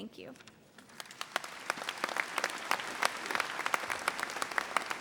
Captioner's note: audience applauding